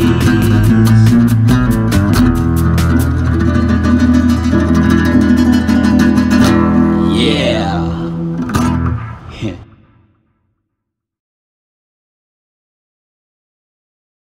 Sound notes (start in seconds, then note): 9.2 laugh